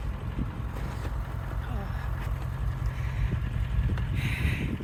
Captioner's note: grunting